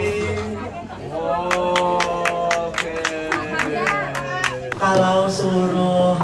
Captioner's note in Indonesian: tepuk tangan